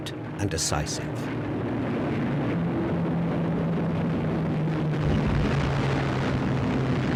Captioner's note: plane engines roar